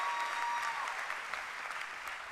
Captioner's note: applause